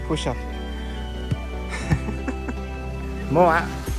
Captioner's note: laughs